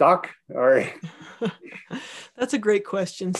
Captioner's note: laughing